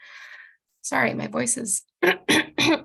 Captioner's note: coughing